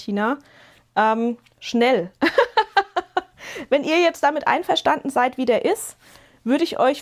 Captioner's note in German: gelächter